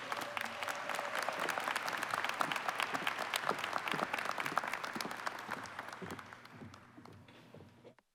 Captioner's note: applause